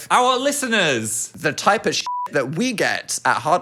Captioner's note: beep